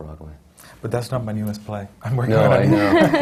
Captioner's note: laughs